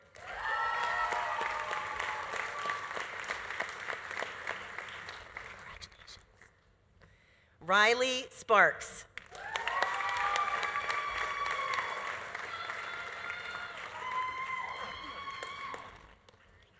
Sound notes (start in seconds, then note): 0.0 audience applauding; 0.1 audience cheering; 9.2 audience applauding; 9.3 audience cheering; 14.0 audience cheering continues